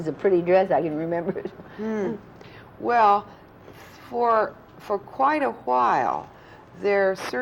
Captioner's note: laughs